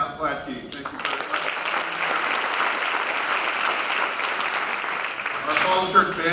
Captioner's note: applause